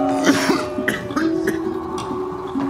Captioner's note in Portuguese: Cristian tosse